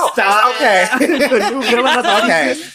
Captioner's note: laughs